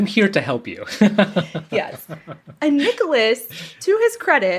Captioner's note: laughs